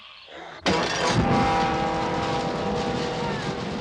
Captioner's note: whimpering